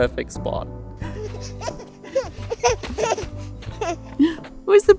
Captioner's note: giggles